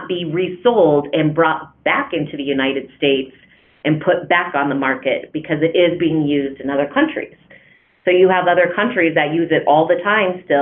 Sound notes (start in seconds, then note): none